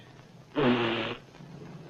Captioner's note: blows nose